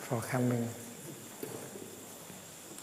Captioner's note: water splashing